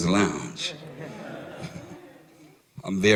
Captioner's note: laughter